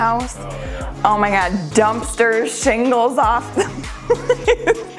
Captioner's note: laughs